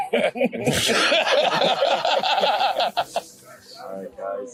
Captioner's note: everyone laughing